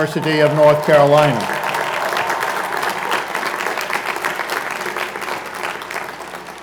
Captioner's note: cheers and Applause